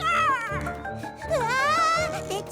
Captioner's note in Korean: 비명